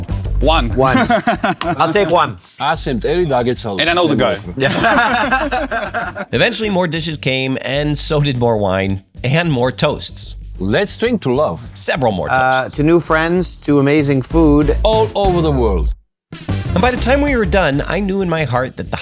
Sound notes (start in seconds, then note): 0.8 laughing; 3.8 all laughing